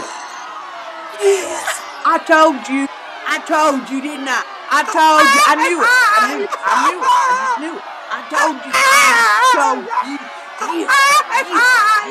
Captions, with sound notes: (crowd groans) - Yes, I told you. I told you, didn't I? I told you, I knew it. (blonde woman weeps) I knew it; I just knew it. I told you. I told you. Yes! Yes!